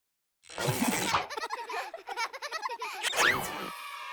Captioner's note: children laughing